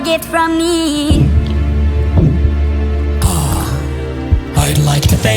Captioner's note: gulp, gulp